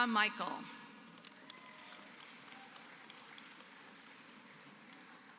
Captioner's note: applause